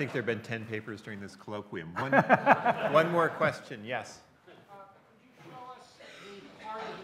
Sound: audience laughter; laughter from audience

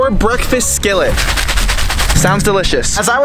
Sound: food pack rattling

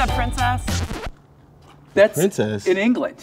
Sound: record scratching

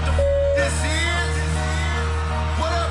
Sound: crowd cheers

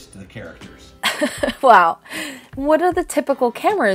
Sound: laughs

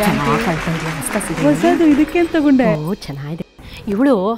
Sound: women chatter about saree

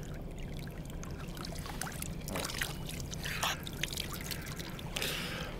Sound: water splashing

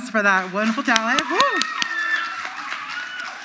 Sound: audience applauds

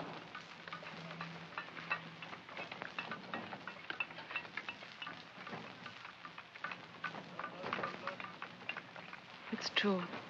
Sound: sounds of tools chipping

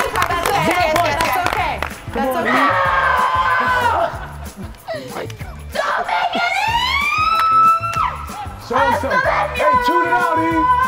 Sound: applause

